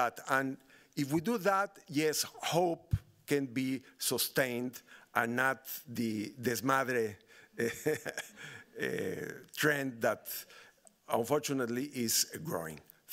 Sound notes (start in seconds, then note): 5.9 speaking Spanish; 7.6 laughing